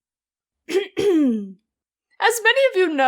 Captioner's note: coughcough